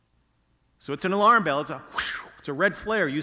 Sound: blows air

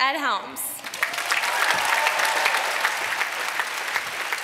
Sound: applause

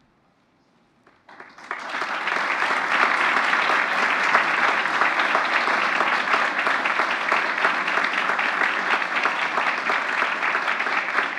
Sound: applause

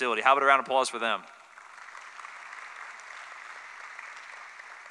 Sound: applause

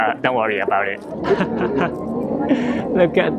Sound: chuckles

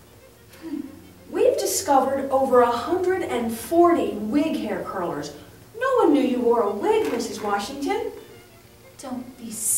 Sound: scoffs

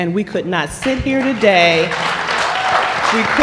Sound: applause

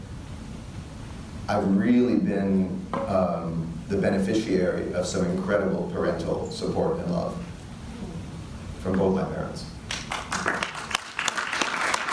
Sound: audience applause

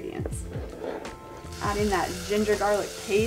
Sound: paste sizzling

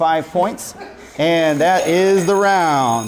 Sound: bell sounds

